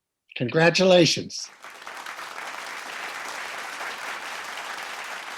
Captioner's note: people clapping